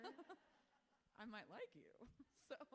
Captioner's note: author laughs